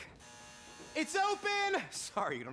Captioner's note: doorbell buzzes